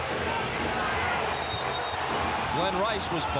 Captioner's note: whistle blows